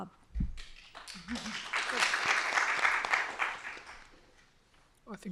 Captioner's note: applause